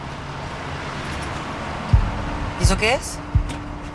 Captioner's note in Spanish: Ruido de un vehículo